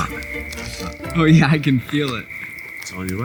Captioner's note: laughs